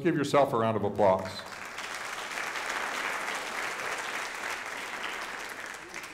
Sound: audience applauding

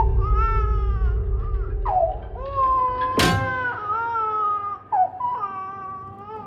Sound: baby crying

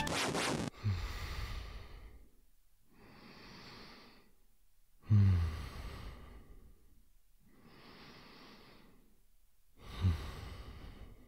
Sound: snoring

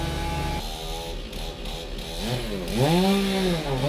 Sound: motor whirring

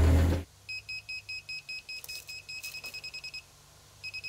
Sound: machine beeping

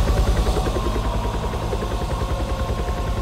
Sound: none

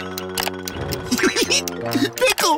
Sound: laughing

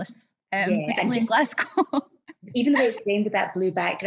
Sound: laughs

